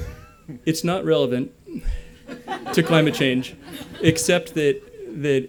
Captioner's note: laughter